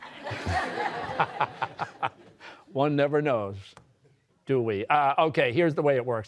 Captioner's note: laughing